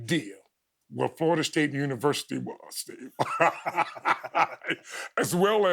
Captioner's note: chuckling